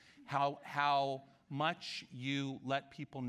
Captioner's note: none